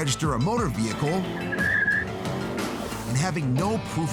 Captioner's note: tires squealing